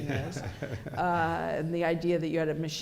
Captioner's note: laughter